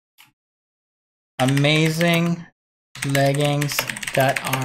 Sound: computer keys

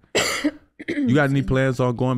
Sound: coughs

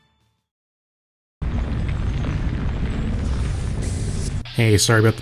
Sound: vault Doors Opening

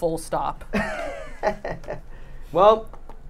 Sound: chuckles

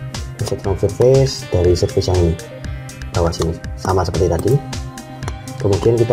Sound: click

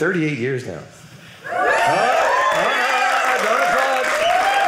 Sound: audience applauding

